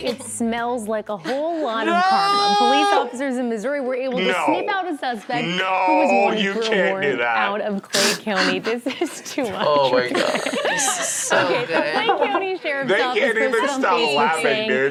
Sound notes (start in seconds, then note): 7.9 laughs